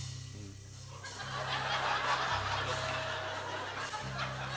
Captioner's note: suspenseful music plays; laughter